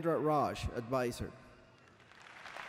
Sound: applause

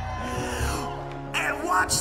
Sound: congregation cheering

